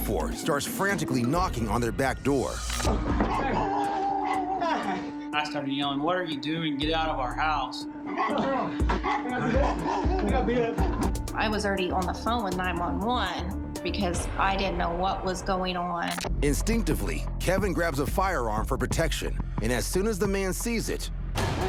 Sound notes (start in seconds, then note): 3.0 dogs barking; 3.0 knocking